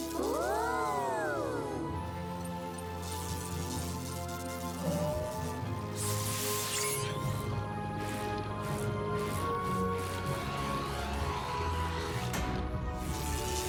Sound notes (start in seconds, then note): 0.0 zap; 2.3 zap; 12.6 slam